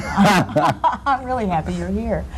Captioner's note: laugh